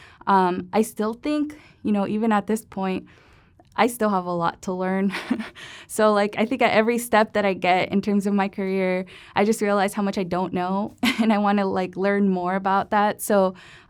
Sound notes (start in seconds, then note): 5.1 laughter